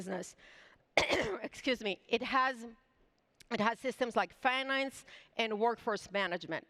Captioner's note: coughs